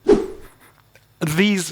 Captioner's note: whoosh